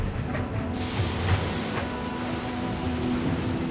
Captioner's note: thunder rumbles